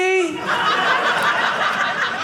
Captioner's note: audience laughing